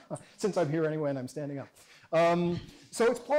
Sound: chuckles

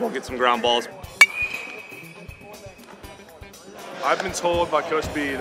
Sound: ball hitting bat

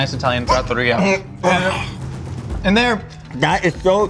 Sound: gagging

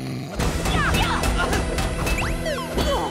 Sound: snoring; grunting

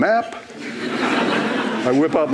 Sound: laughter

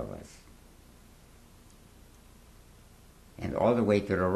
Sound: pauses for 3 seconds

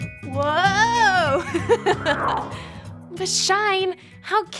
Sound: giggles

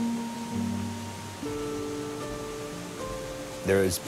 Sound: water roaring

